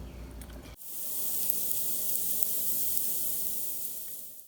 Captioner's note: sizzling